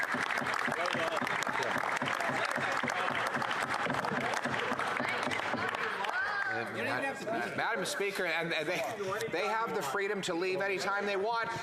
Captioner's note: applause